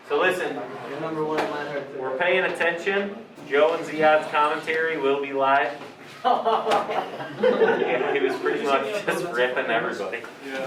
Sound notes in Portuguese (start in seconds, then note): 6.1 risos